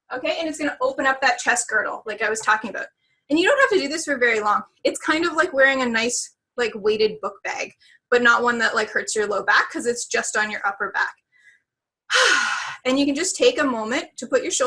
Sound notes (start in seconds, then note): 12.1 deep sighing